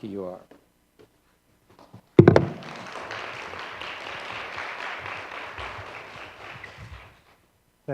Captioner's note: applause